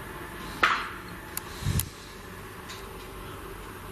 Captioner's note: pop